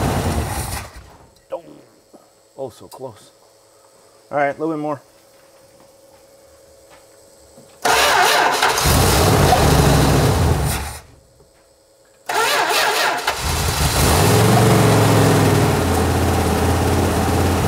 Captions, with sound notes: (engine quits) Doh. Oh, so close. All right, a little bit more. (ignition stutters) (engine purrs) (engine quits) (ignition stutters) (engine purrs)